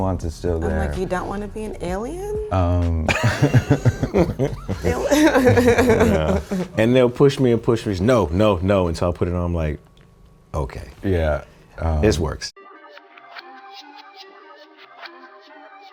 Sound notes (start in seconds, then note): 3.0 laughing; 3.0 laughs; 12.6 electronic music plays